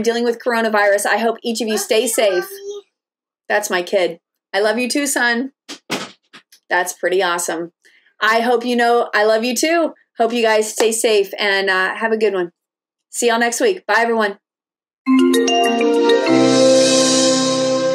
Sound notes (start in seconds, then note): 5.8 door closes; 15.0 upbeat music